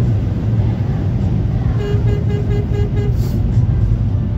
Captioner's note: dashcam driver honks